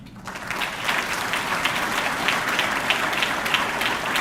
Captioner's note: audience clapping